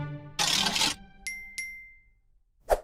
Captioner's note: ding ding!